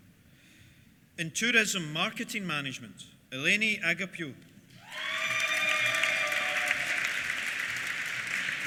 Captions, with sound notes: In Tourism Marketing Management, Eleni Agapiou. (CHEERS) (APPLAUSE)